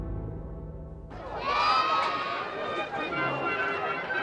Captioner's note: cheering